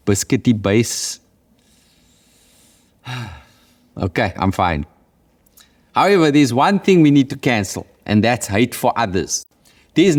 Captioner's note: sighs